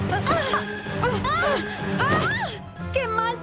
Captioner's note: shouts